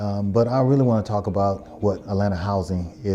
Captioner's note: Arabic